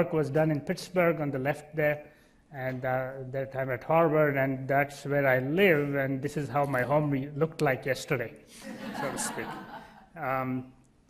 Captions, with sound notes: was done in Pittsburgh on the left there and that time at Harvard, and that's where I live, and this is how my home looked like yesterday, (laughing) so to speak.